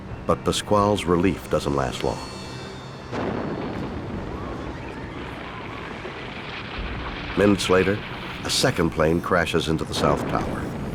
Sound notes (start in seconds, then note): 3.0 explosion booms; 3.4 people screaming